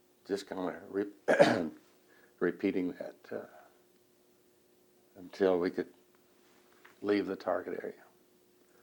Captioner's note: clears throat